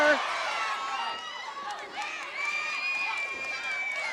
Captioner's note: audience cheering